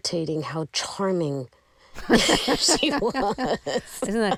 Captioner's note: laughter